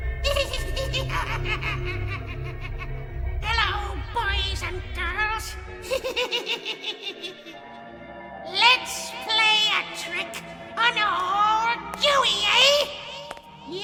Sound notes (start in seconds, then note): 0.2 Mr. Punch laughs; 5.8 giggles